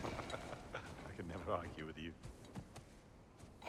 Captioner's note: laughs